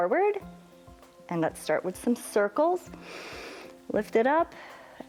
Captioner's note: inhales